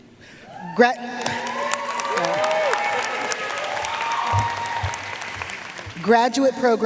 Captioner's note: audience cheering and applauding